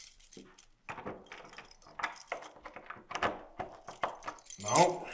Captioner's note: key clanging